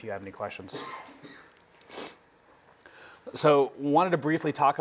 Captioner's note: sniff